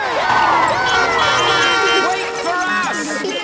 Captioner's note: beeping; laughter